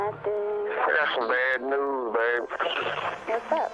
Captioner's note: on phone